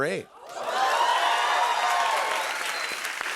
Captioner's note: cheers and applause